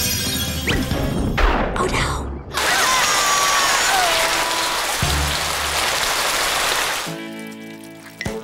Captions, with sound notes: Oh, no! -Ah! -[both groaning] Oops.